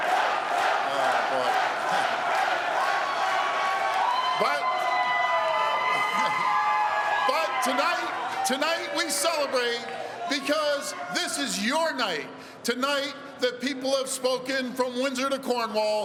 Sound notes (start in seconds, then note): 2.9 chanting